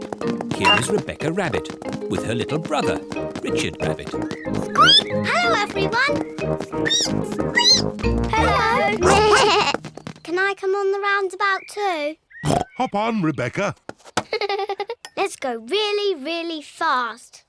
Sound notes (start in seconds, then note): 6.8 squeaks; 6.8 squeak; 14.2 giggles